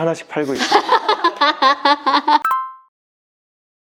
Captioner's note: laughter